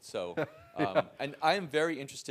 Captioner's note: laugh